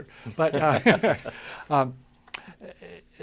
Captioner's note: chuckles